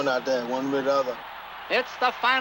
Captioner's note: crowd cheering